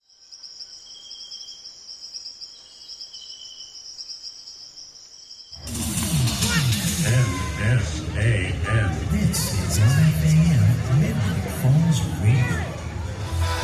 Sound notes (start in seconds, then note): 0.0 crickets chirping; 5.8 energized rock music; 7.4 robotic Voice